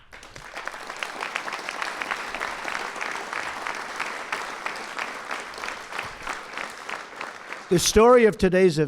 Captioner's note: applause